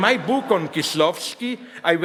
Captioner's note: audience laughs